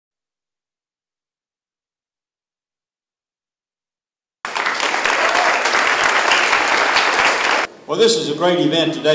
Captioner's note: applause